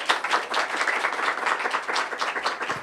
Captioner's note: applause